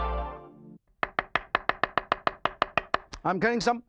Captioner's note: harp music; knife tapping